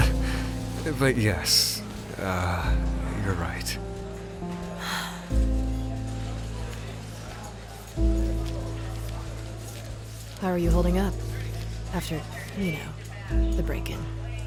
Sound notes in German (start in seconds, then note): 0.1 kicher; 4.8 seufz